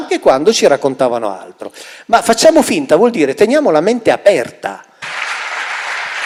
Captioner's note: applause